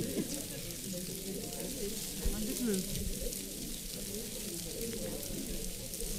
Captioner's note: paper crinkling and audience chattering